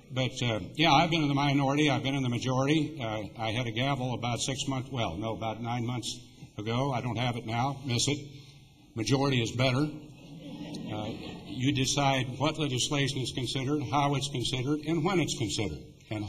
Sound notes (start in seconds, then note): 10.1 laughter